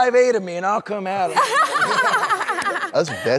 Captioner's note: everyone laughs